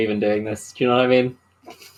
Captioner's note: laughs